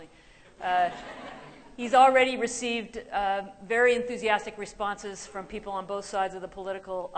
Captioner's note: laughter